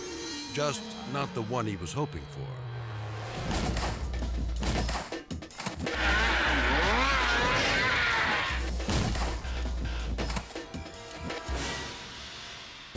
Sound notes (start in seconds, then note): 2.9 dramatic music; 2.9 snowmobile thudding; 5.9 snowmobile buzzing; 8.7 snowmobile thudding; 12.7 dramatic music